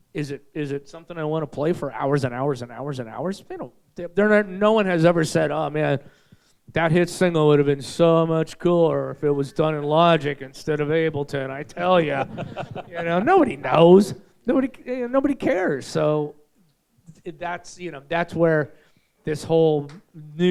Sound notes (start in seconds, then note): 11.8 audience laughing